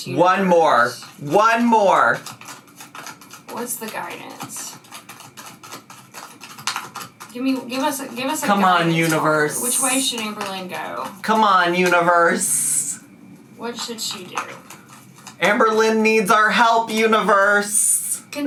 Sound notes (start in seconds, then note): 5.1 cards shuffling